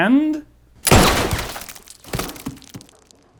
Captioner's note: gunshot